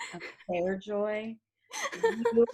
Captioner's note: laughing